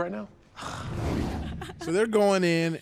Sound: sighs loudly

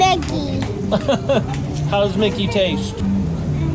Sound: laughs

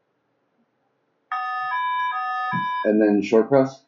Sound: door phone chimes

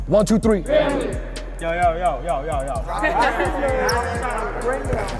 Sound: overlapping chattering

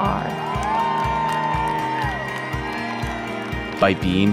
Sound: whooping

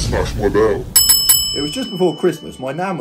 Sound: bell rings

